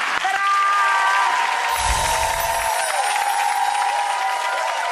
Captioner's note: audience cheering